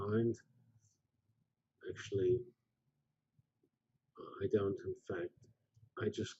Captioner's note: pause